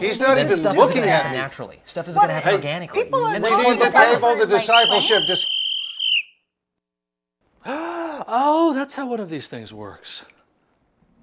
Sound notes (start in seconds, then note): 4.6 whistle blowing